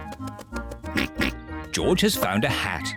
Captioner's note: oinks